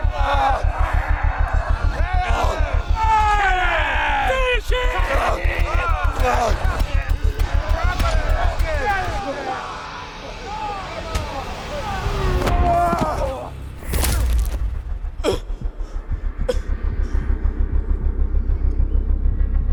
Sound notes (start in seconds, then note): 0.2 dramatic music; 5.2 all cheering; 14.4 dramatic music